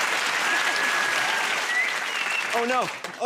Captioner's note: whistles